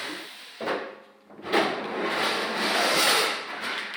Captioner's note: clattering and clattering